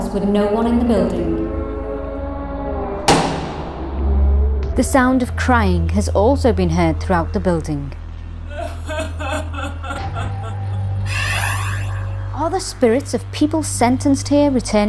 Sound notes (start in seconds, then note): 3.0 door slamming; 8.5 woman crying